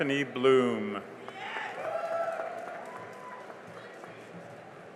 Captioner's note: cheering and applause